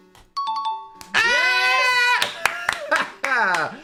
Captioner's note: applauds